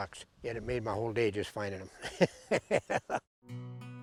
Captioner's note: laughs